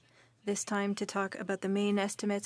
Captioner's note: speaking French